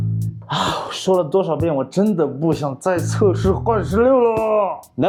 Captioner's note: sighs